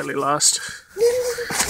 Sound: laughs

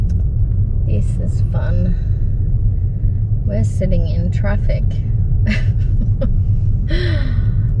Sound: flatly; laughs

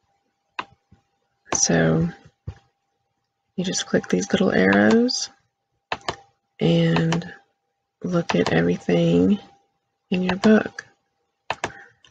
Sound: click

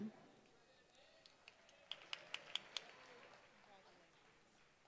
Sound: applause

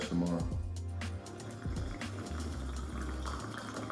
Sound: slurping

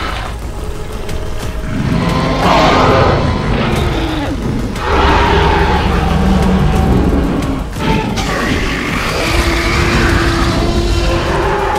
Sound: spinosaurus and T-Rex Roaring/Battle Sounds

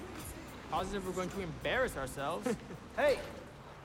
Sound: Raj laughing

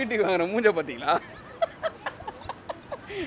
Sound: gives a villian laugh

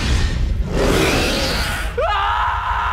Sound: roaring; screaming

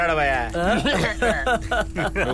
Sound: laughs

